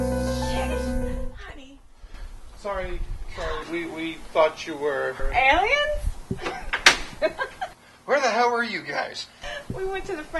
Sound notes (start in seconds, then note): 0.0 music stops; 7.1 laughter